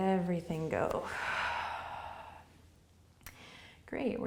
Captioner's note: exhaling